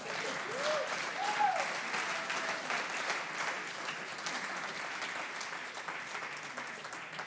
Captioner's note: audience applauds